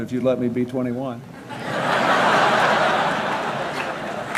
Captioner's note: applause